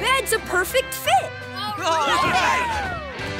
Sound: cheering

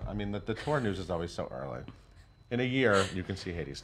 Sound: laughs

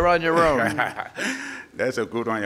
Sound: laughing

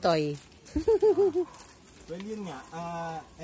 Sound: giggles

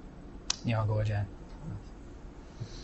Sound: non-english speech

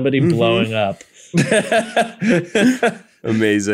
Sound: laughter

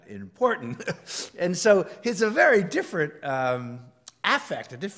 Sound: laugh

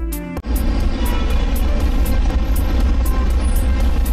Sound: busy street noises

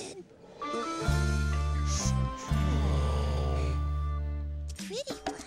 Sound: sniffing flowers as others sigh

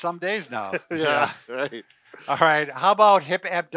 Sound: laughing

